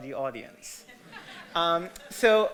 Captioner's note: audience laughter